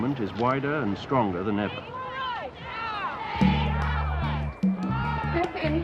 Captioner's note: marchers chanting